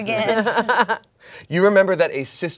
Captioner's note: everyone laughs